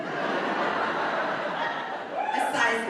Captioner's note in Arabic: الحشد يضحك